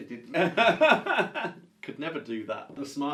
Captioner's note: laughs